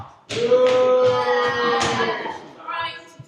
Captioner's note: boos